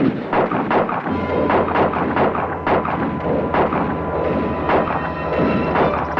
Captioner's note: guns fire; ominous orchestral music